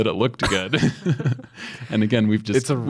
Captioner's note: both laugh